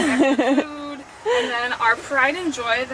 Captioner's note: laughing